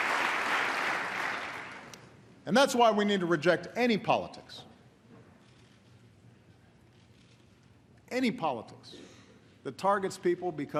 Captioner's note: applause